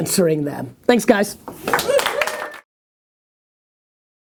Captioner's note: applause